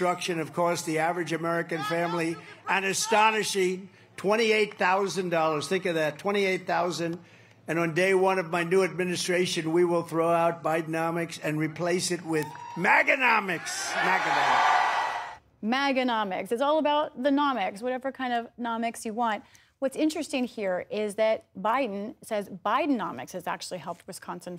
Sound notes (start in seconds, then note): 16.4 cheering and applause